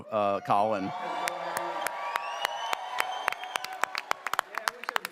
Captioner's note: audience cheers